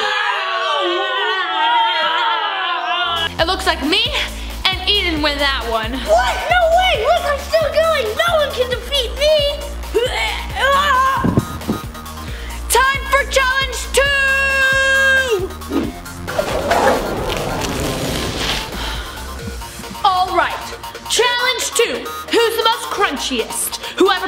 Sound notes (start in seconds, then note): 0.3 grunting Overlapping; 9.3 bump; 9.3 stretching Noise